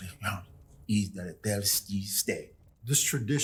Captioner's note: speaking Cherokee language